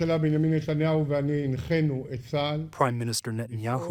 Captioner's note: through translator